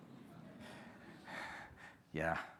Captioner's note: audience laughing